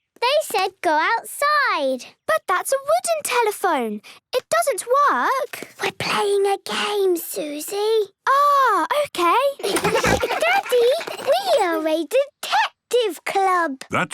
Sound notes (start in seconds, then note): 6.0 whispering; 9.6 giggles, snorts